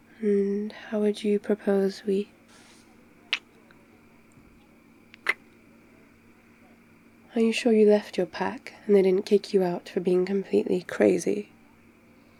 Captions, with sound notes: and how would you propose we... *movement - kiss* *kiss* are you sure you left your pack and they didn't kick you out for being completely crazy?